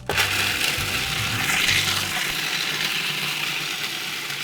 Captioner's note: blender grinds